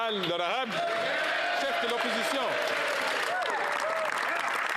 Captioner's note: some Applause